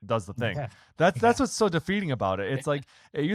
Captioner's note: laughs